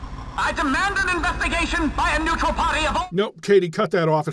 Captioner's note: CALHORIAN in terrible, loud, bit-crushed audio